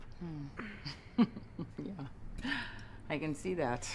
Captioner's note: giggling